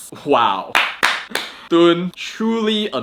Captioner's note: claps